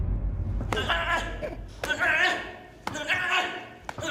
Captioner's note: gruñidos